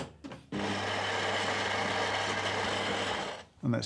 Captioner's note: coffee grinding